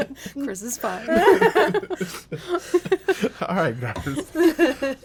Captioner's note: group laughs